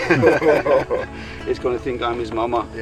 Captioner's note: group laughing